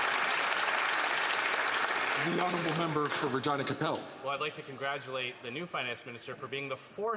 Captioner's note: some Applause